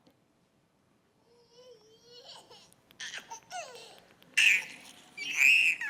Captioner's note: baby giggling